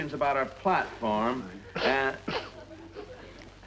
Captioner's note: Joan sniffling